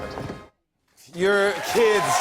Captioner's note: cheers and applause